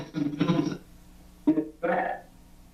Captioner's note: young male voice